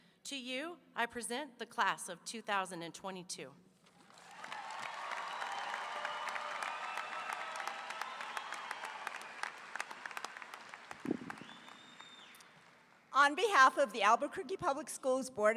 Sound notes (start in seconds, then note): 4.0 audience applauding; 4.2 audience cheering